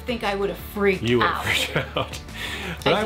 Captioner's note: chuckles